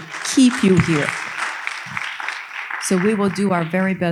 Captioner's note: audience applauding